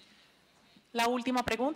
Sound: in Spanish

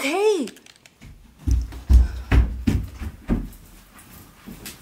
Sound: stomping

